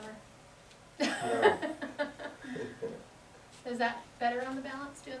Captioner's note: laughter